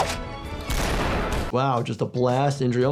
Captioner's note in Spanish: cañonazo